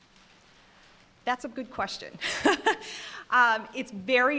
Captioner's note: laughing